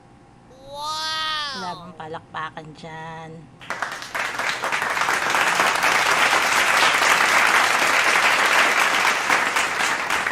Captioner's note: clapping